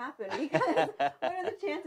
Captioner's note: laughs